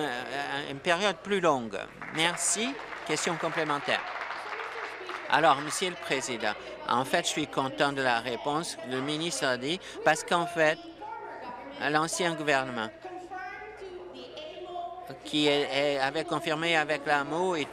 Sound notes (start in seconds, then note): 4.5 applause